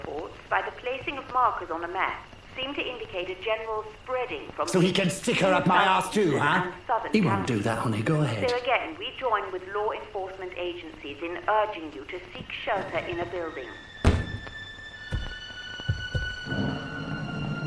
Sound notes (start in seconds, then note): 8.9 radio Announcer; 13.8 ominous music